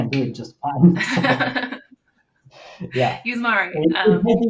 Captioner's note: laughing